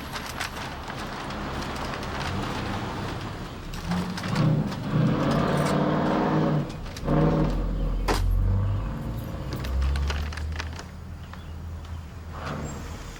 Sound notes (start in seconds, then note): 0.1 paper bag crackling; 2.7 vehicle engines revving; 8.3 car trunk thudding; 10.5 paper bag crackling